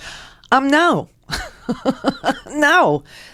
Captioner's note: laughs